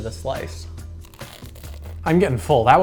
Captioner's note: crunching pizza